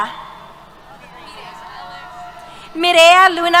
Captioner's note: cheers